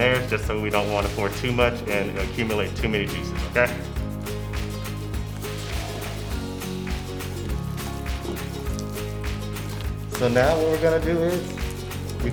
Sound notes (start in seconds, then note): 4.8 upbeat music; 7.6 squishing sound